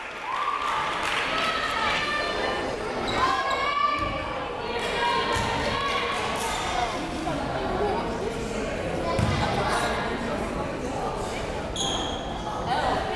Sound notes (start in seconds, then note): 0.0 crowd clapping; 3.4 crowd members shouting